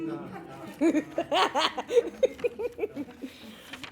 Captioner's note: laughing